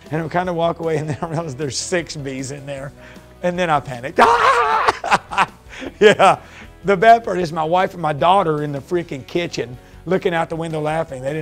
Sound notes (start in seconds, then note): 4.2 laughs